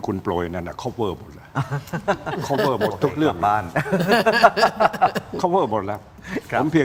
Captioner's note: laughs